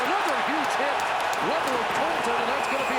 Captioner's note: crowd noise